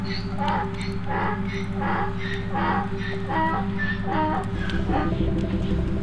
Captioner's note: donkey braying nearby